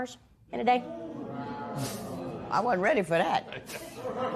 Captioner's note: spectators murmur